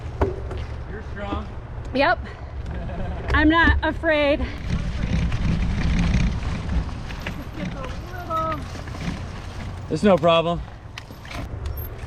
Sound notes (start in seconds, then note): 2.7 laughs; 5.0 bike rumbling